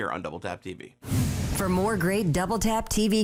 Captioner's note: air whooshing